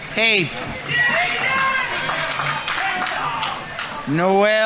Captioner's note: audience applauding